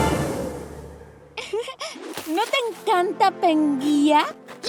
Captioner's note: laughs